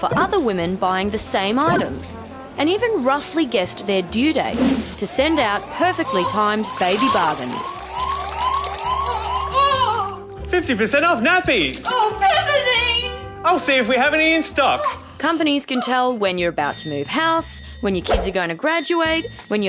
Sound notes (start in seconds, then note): 8.1 alarm blares, woman groans